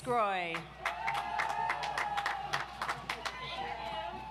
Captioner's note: audience applauds